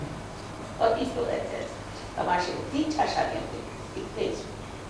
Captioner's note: hindi